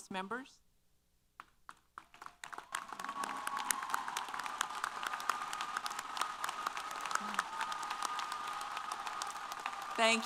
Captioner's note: applause & Cheers